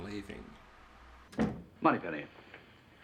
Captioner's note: thud